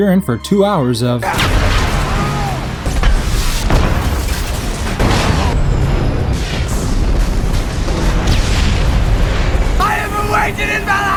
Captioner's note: lots of explosions